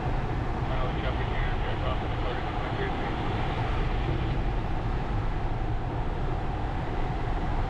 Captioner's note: radio: Traffic, 0EA departing runway 3-3